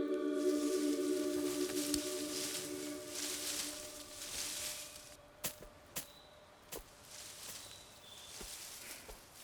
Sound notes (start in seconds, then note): 1.6 leaves rustling; 7.1 thudding